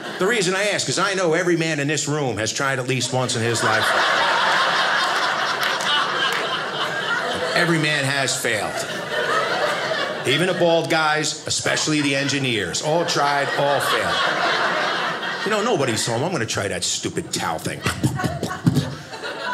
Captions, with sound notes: The reason I ask is I know every man in this room has tried at least once in his life. (audience laughing) Every man has failed. Even the bald guys, especially the engineers. All tried, all failed. (audience laughing) You know, nobody is home. I'm going to try that stupid towel thing.